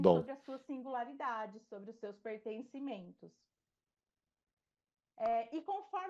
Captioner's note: speaking in Portuguese